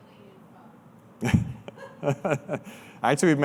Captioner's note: laughter